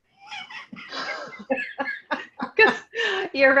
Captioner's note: laughing